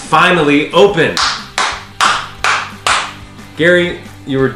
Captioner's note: clapping